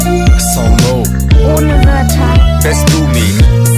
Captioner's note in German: french; german